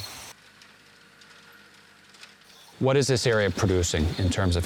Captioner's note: machine whirring